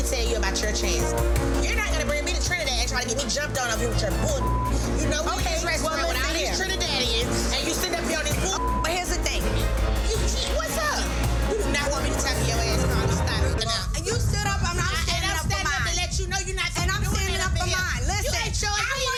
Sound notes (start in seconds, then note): 4.2 beep; 8.4 beep